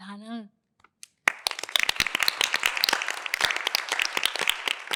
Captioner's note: applause